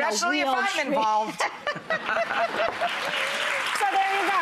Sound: all laughing; audience applauding

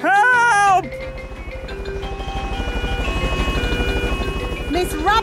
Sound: emergency siren sounding

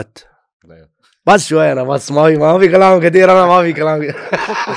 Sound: in Arabic

